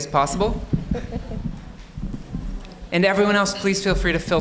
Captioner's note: audience member laughing